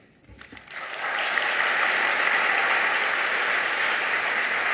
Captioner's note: audience applauding